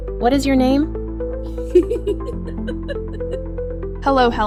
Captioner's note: giggles